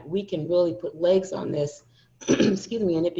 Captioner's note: coughing